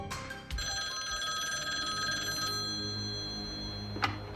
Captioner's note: phone ringing